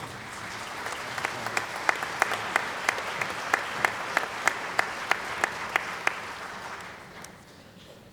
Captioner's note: applause